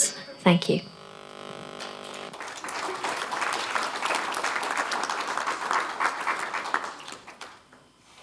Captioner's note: applause